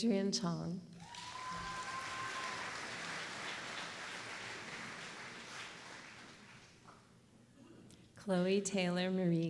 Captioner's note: applause